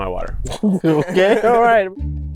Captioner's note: laughs